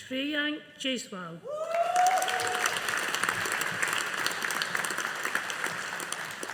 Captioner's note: audience applauding